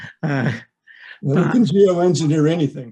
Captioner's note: chuckle